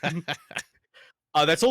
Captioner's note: both laughing